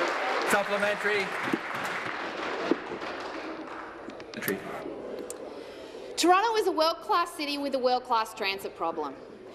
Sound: applause

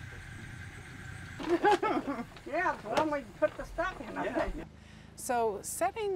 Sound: laughs

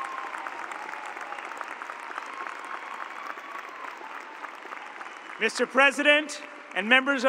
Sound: cheers and applause

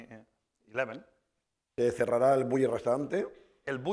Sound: speaking spanish

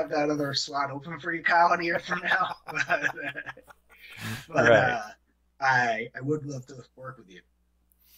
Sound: laughter

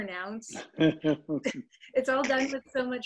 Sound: laughs

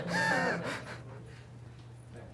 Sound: laughs

